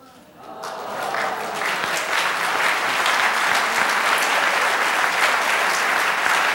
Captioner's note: applause